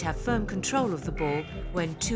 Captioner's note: buzzer